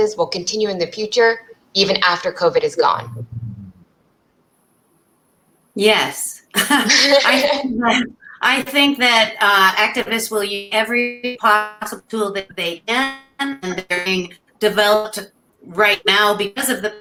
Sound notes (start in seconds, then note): 6.5 laughter